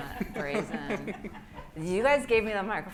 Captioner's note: everyone laughs